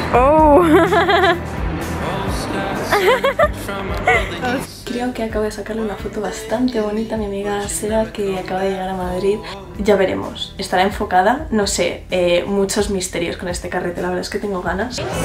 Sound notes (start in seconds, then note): 2.8 laughing